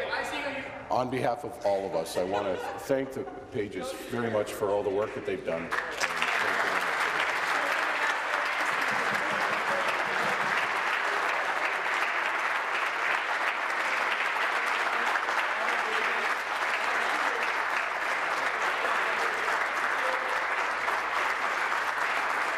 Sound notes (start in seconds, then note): 9.7 applause